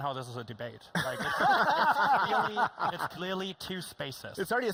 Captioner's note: laughing